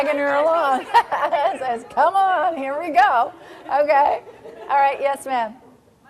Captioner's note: laughing